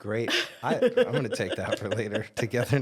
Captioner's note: laughs